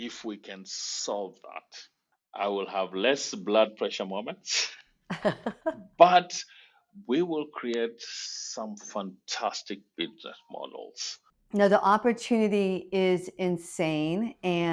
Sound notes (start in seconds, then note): 5.1 both laugh